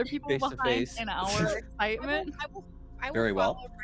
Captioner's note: chuckles